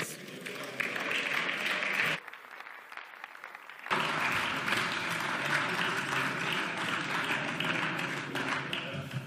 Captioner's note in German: Beifall